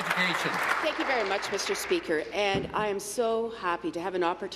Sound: applause

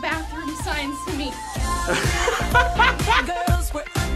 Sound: laughs

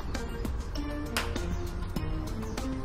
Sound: slap

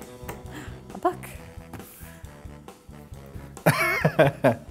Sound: gasps; laughs

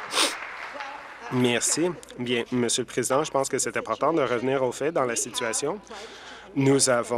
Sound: applause

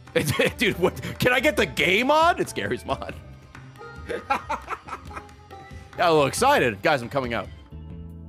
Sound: laughs

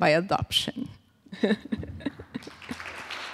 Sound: laughs; crowd applauds

